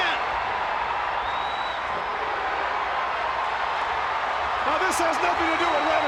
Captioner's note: crowd cheering